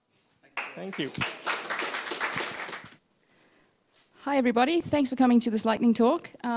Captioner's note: applause